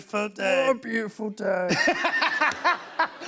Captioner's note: deep voice; laughter